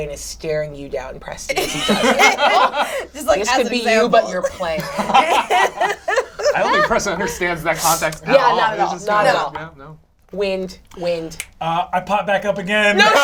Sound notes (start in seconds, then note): 1.6 all laugh; 4.4 all laugh